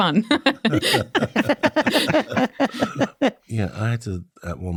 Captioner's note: all laughing